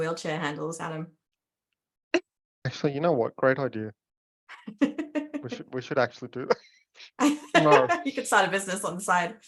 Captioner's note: laughs